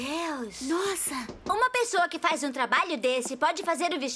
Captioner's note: knocking